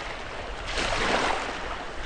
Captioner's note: water splashing